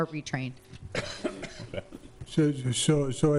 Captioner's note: person coughing